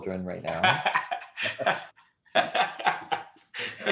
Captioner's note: laughs